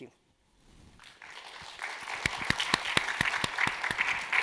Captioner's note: audience clapping